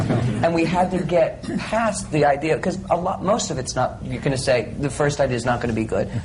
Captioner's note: laughter